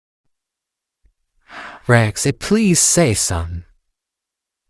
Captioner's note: sighs